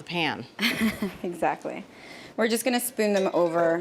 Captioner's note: laughs